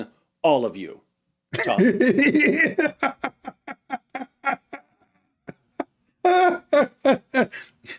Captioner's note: Ketawa